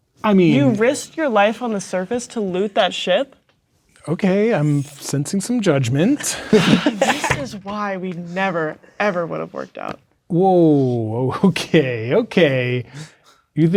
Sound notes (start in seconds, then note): 6.2 players laughing